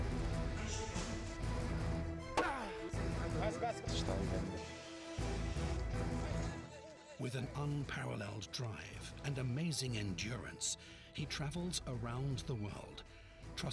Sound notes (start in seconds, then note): 2.4 grunting; 2.4 tapping; 3.4 background chattering